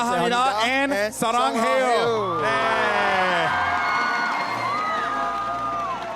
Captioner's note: cheering & applause